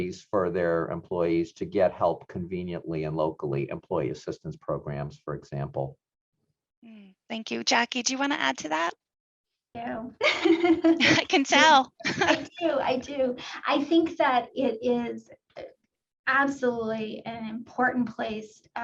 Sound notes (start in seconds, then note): 10.1 laughs